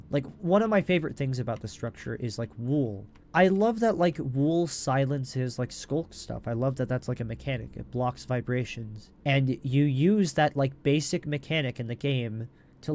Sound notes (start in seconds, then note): none